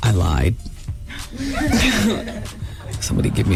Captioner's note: laughter